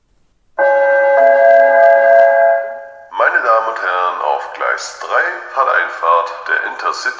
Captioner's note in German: Gong